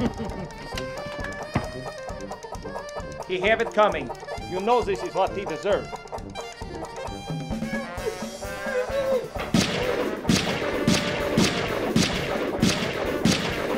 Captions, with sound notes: (chuckling) - He have it coming. - You know this is what he deserve. (gunshots)